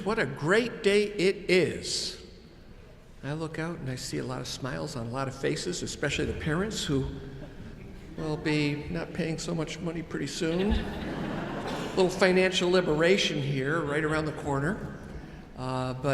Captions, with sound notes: What a great day it is. I look out and I see a lot of smiles on a lot of faces, especially the parents, who will be not paying so much money pretty soon. (audience chuckles) A little financial liberation here right around the corner.